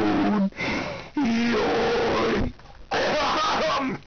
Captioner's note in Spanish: respiración